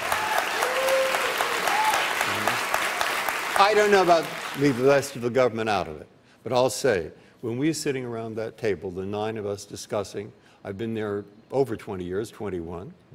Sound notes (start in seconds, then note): 5.6 applause